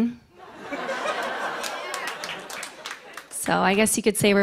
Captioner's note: laughter